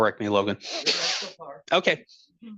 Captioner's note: speaking softly